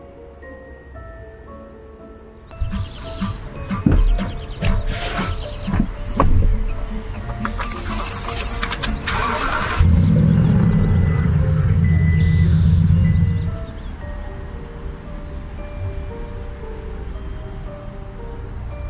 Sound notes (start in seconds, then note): 2.3 birds chirping; 3.1 mysterious music continues; 9.1 car engine starting; 14.9 traffic humming